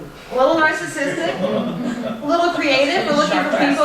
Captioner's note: laughter